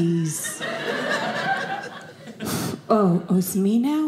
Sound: audience laughing

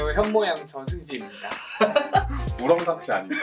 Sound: laughs

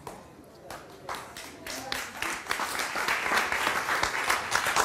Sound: audience claps

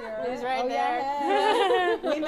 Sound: laughter

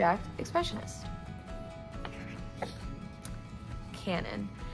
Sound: page flip

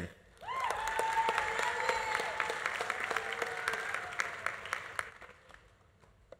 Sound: audience cheering; audience applauding

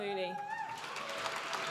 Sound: applause

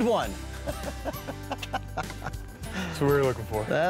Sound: laughing

